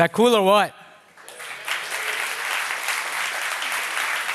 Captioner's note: applause